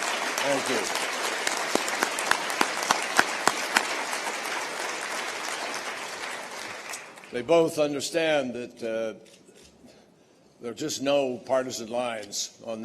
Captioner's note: applause